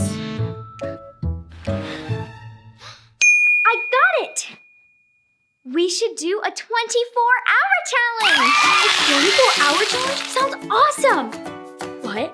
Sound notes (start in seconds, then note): 2.9 gasps; 3.2 ding; 8.2 applause and cheering